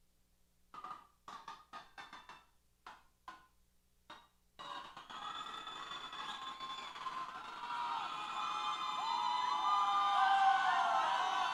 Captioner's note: cheers